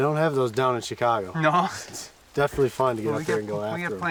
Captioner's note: laughing